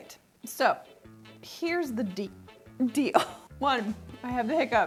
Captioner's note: hiccups